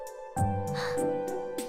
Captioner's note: gasp